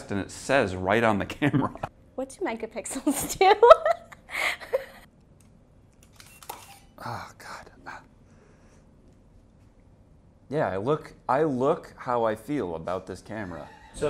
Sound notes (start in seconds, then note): 1.7 laughs; 4.3 laughs; 6.0 camera shutter clicks